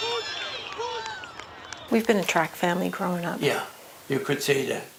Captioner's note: cheering